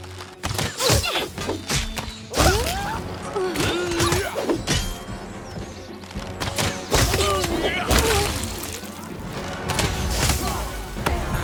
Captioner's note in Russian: веские тычки и затрещины